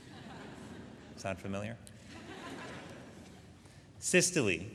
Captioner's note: audience laughing